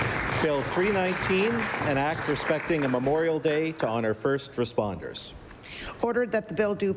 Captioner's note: applause